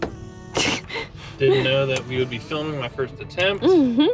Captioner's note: laughing